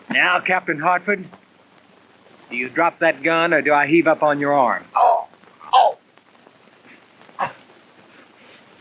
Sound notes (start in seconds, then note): 4.9 groaning